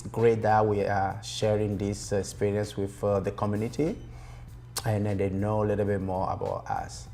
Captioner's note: none